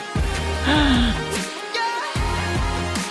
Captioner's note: gasp